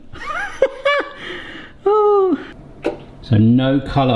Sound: laughs

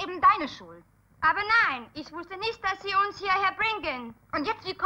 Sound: German language

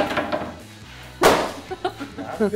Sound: laughing

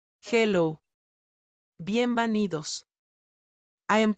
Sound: spanish

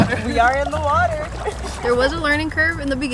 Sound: laugh

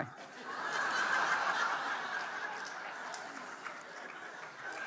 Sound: audience laughing

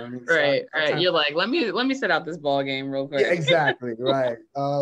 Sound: laugh; laughs

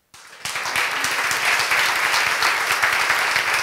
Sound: applause

